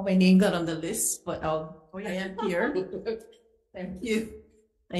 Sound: chair laughs

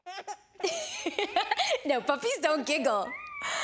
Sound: laughs

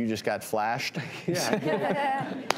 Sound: audience laughing

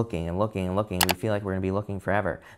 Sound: button clicking

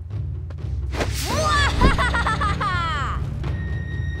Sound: laughing

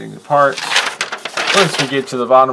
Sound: paper crinkles

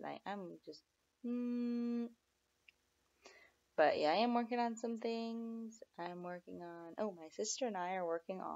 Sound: hmmm

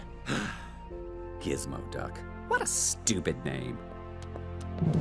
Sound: sighs

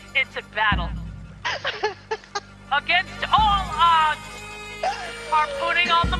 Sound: laugh

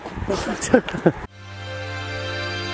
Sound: laughing; upbeat music

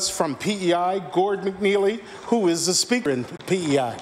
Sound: applause

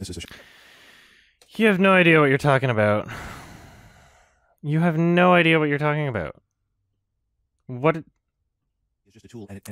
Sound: deep breath

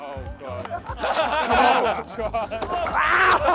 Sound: contestants laughing

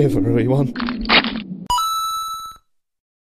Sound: coin Sound

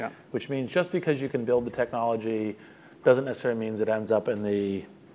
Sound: none

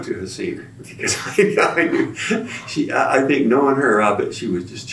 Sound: laughs

